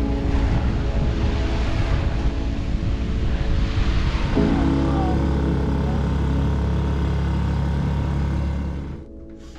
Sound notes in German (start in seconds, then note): 3.3 Motor dröhnt